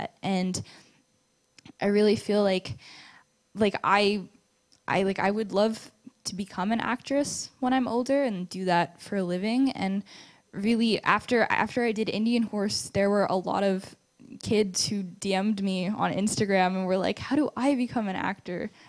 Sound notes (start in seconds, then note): none